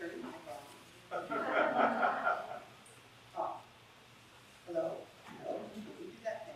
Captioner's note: laugh